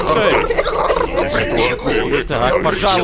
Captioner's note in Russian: плачут